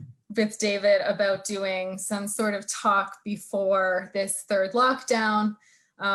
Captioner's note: none